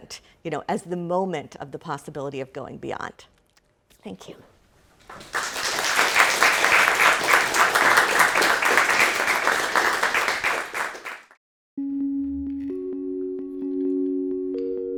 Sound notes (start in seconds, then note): 5.1 audience applauding; 11.8 calm music